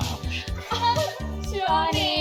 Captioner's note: giggling